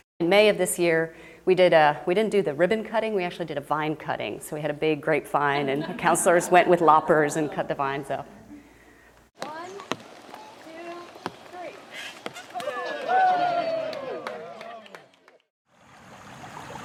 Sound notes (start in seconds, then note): 12.5 applause